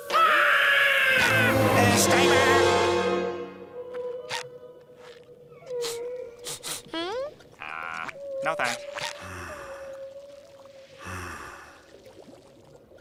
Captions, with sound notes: [screams] Stay there. [sniffs] Uh... No, thanks. Ha! [heavy breathing]